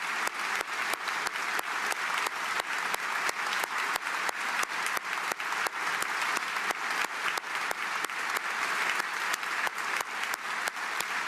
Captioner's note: applause